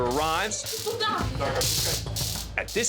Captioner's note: taser sizzling